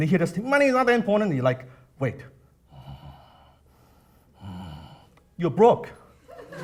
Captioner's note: grunts